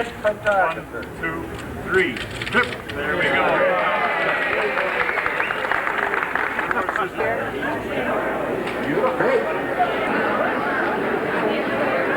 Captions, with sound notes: One, two, three. There we go. (crowd cheers) (background chatter)